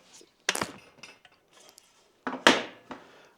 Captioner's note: clanking